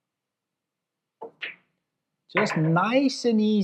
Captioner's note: balls clacking